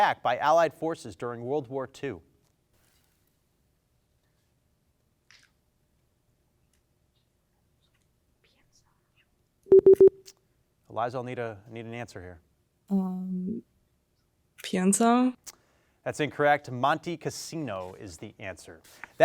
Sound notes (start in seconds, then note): 2.9 team whispers; 9.7 time out beeps